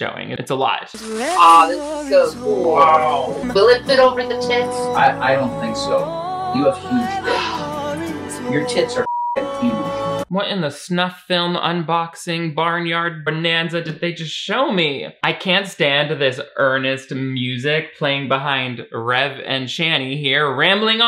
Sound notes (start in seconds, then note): 5.0 rev; 9.0 beep